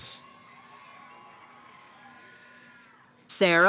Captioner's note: cheering